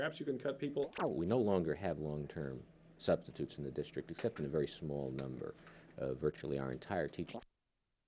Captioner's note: camera noise; camera noise